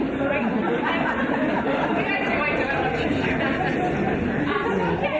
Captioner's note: audience laughing